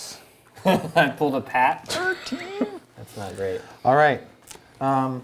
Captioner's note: chuckles